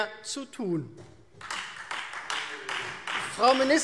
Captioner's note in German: Beifall Freie Demokraten